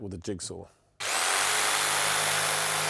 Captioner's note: whirring